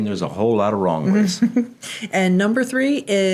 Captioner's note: chuckling